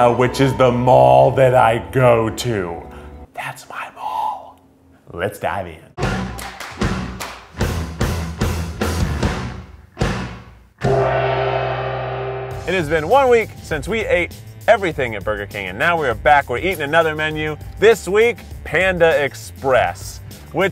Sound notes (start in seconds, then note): 6.1 uptempo engaging music; 10.8 gong reverberates